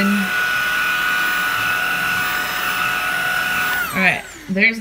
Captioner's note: vacuum noises